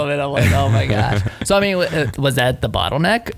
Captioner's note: laughing